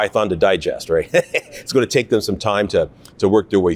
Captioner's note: chuckling